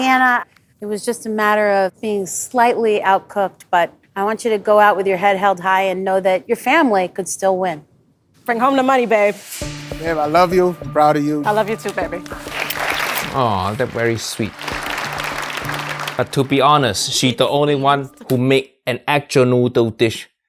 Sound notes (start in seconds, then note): 14.9 crowd claps